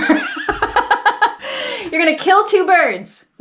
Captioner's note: laughs